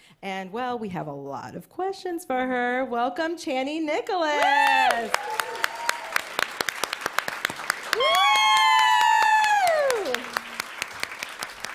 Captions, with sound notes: And well, we have a lot of questions for her. Welcome, Chani Nicholas. [applause]